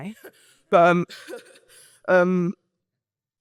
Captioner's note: laughs